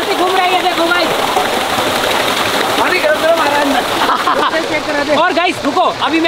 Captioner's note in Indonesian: Suara turbin